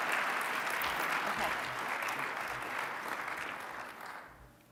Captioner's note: applause